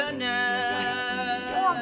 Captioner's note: scoffs